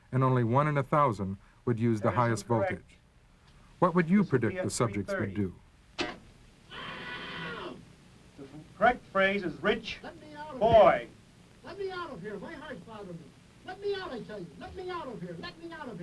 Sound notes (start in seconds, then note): 6.1 buzzes; 7.3 voiceover; 11.0 voiceover